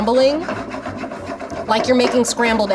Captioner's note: pan scraping